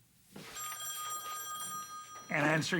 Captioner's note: phone ringing